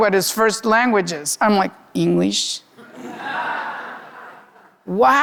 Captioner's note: audience laughing